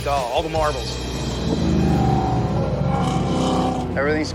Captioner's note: engines rumbling